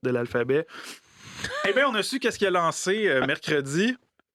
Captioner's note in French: rire